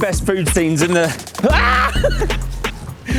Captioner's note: screams